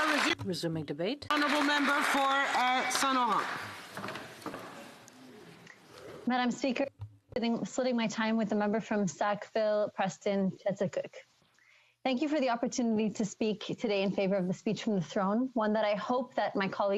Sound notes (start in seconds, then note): 1.3 applause; 3.2 speaking French; 11.6 speaking French